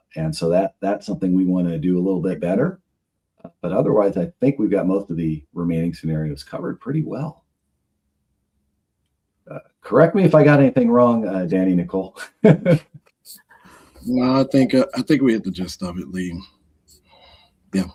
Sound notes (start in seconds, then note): 14.0 laughs